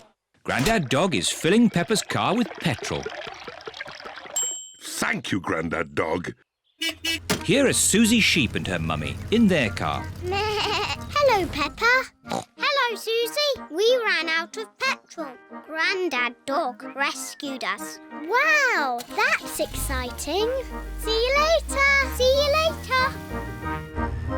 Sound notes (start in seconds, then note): 4.4 bell dings; 6.8 horn beeps; 10.8 bleats; 12.2 snorts